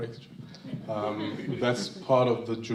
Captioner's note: crowd laughs